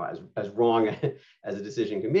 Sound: laughter

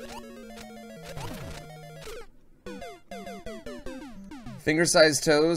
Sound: death audio

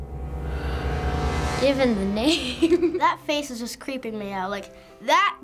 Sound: ominous music; chuckles

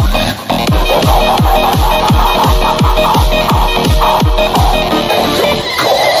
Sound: devilish Laughter

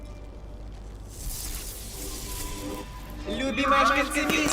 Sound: light sparks

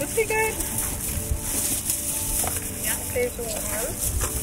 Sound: plastic rustling

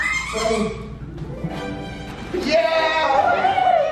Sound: dog toy squeaking; excited cheering

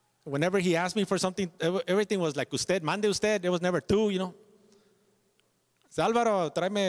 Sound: speaking Spanish

